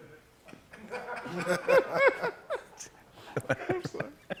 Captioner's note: laughter; fresh laughter